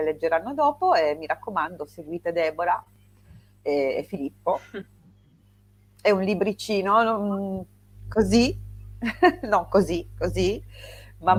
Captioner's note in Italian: risate